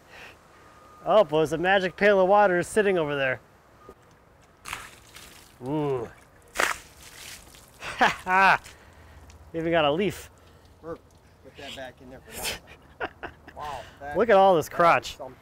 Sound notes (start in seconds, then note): 4.6 splashing; 12.2 laughing